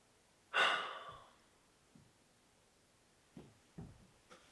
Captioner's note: Jacob sighs